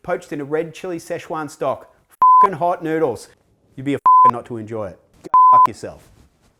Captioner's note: beep